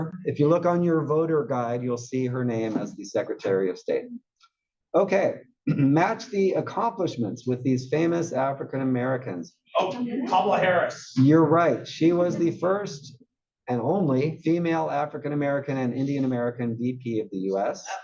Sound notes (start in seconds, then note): 5.6 cough